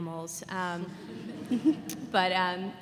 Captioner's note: laughter